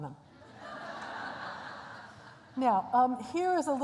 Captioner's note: laughter